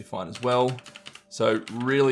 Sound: keyboard ticking

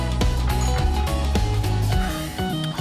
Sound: doorbell

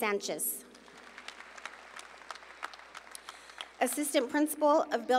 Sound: audience applauding

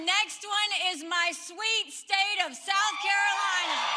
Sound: cheering and applause

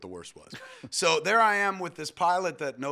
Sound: chuckles

